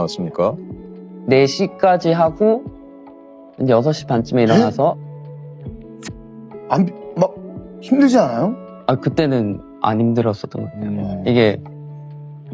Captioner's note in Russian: откашливается